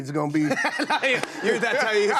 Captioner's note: laughter